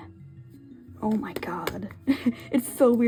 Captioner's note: laughs